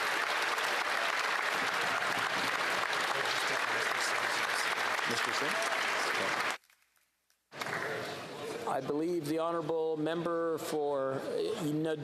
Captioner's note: applause